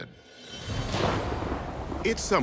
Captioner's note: thunder crashing